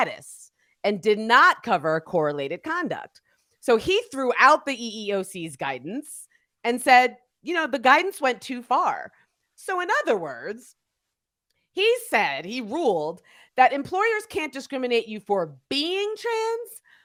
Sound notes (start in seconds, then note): none